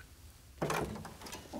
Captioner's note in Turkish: Kapı sesi